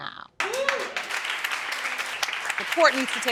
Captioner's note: applause